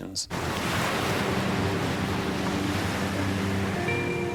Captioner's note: waves crash